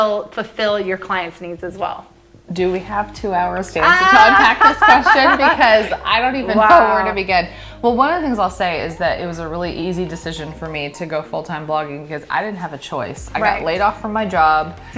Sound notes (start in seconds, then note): 3.8 both laughing